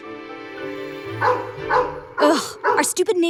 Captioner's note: dog barking